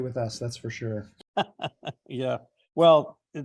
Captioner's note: laughs